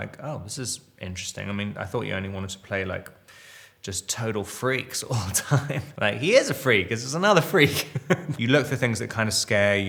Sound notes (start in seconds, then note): 5.1 Robert chuckles; 7.6 Robert laughs